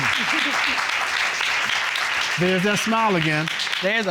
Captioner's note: applause